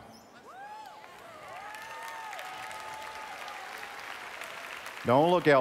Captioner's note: applause